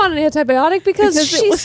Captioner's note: laughs